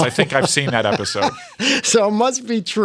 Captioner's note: laughter